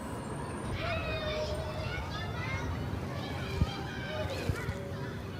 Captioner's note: children playing